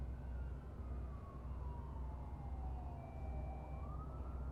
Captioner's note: sirens wailing